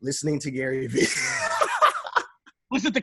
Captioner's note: laughing